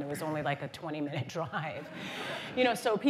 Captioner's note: laughter